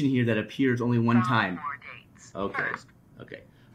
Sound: computer Voice

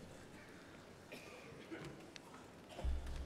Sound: laughter

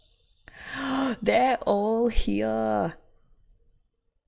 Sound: gasps

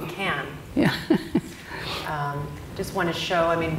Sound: laughs

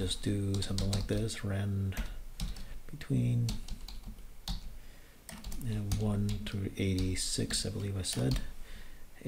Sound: typing; typing

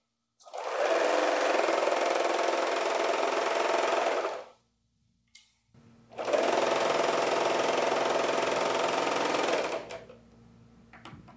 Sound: sewing machine whirring

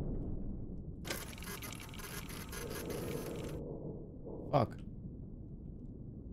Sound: machine whirring

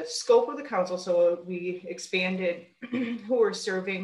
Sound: clears throat

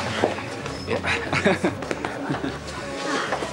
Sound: both Chuckle

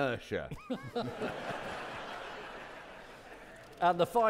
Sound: audience laughing

